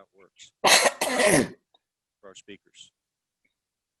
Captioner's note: coughing